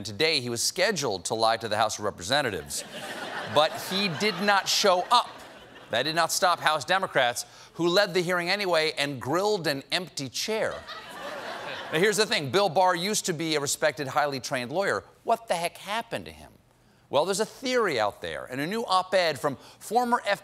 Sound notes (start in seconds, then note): 10.7 laughter